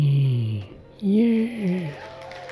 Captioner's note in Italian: Applauso